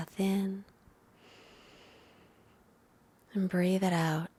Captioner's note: inhales deeply